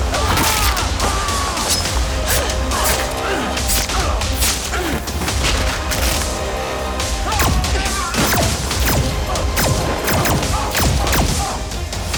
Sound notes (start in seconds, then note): 8.1 laser buzzing